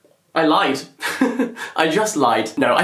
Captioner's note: laughs